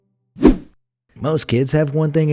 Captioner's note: air whooshing